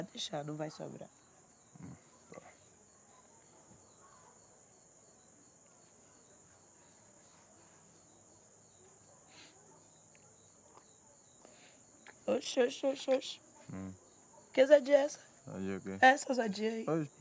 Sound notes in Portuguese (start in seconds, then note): 2.3 grilos